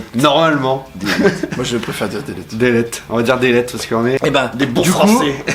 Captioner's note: with a french accent obviously